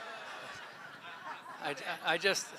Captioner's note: laughter